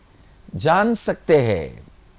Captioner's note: hindi